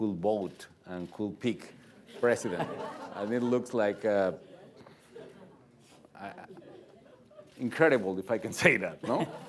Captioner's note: laughter